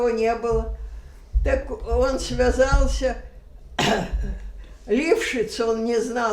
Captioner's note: coughing